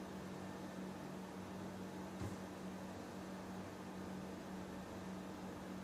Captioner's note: none